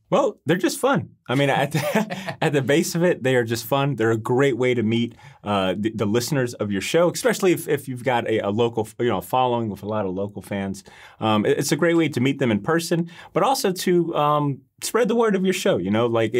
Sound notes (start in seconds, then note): 1.3 laughing